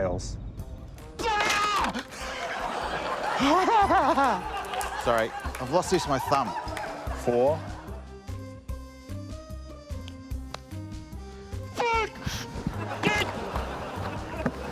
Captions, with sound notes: - Tails. - Aargh! (CHUCKLES) Sorry. I've lost the use of my thumb. - Four. - (YELLS)